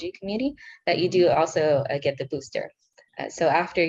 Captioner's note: speaking in foreign language